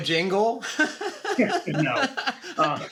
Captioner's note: laughter